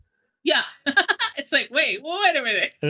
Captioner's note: laughs